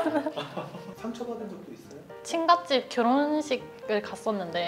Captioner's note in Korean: 웃음